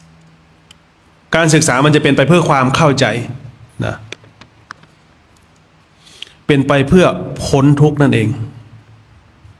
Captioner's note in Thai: เสียงสูดหายใจ